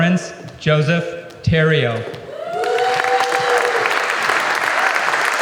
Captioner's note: applause